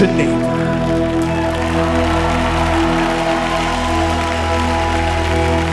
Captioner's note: crowd cheering